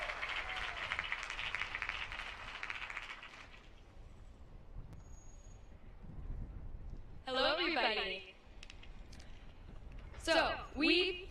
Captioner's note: applause